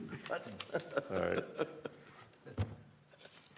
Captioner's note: laughter